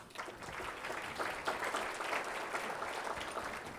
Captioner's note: applause